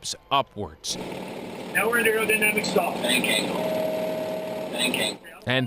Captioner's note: flight simulation audio